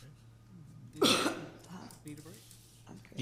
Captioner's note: coughing drowns out speakers